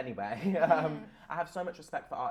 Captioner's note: laughter